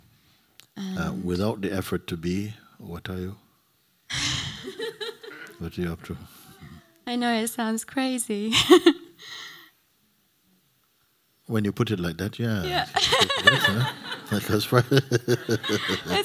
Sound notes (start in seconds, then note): 4.2 laughter; 10.3 laughs; 12.7 laughter